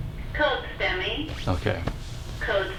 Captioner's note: radio Chatter